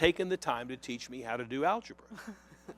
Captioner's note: laughter